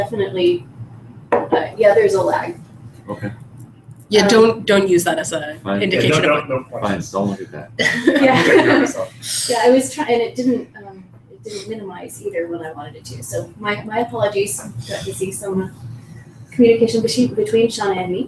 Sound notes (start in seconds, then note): 5.9 laugh